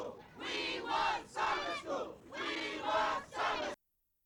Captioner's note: protesters chant